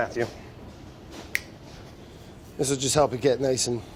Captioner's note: snaps fingers